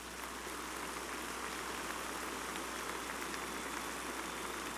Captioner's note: applause